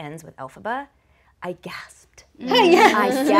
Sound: laughing

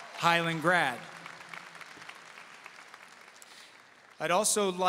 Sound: audience applauding

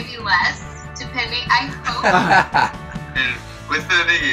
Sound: Nev laughing

